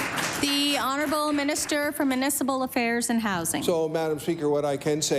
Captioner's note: applause